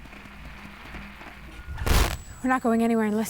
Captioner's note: static